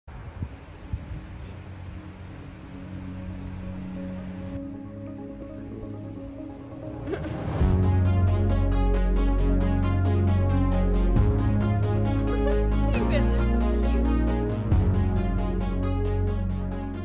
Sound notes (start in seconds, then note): 12.2 laughter